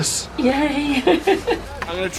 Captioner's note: giggles